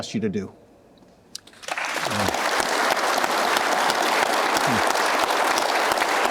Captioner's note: audience applauding